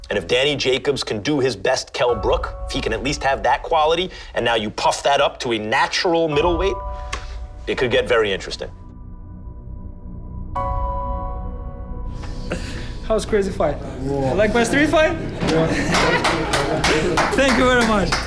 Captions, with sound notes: And if Danny Jacobs can do his best Kell Brook, if he can at least have that quality, and now you puff that up to a natural middleweight? It could get very interesting. That was a crazy fight. You like my street fight? -(LAUGHING) -(CLAPPING) Thank you very much.